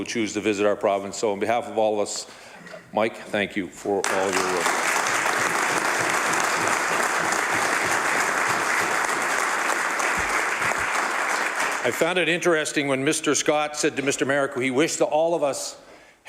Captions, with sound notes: SCOTIANS BUT TO ALL THOSE PEOPLE WHO CHOOSE TO VISIT OUR PROVINCE. MIKE, THANK YOU FOR ALL YOUR WORK. [ Applause ] I FOUND IT INTERESTING WHEN Mr. SCOTT SAID TO